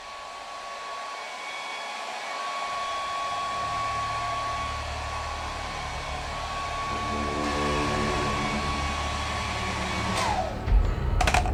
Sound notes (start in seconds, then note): 1.9 hair dryer sound; 6.1 tense music starts